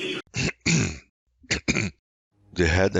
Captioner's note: clears throat